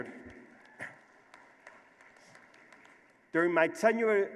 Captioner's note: applause